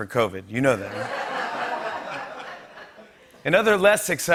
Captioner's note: laughter